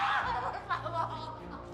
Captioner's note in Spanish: sollozos